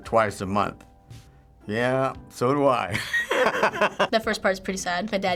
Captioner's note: laughs